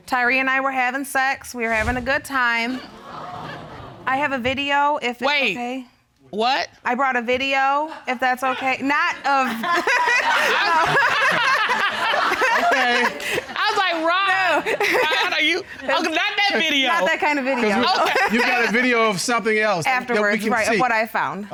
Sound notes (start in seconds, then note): 9.2 laughs